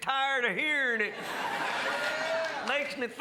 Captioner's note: crowd laughs